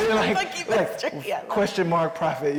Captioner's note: laughs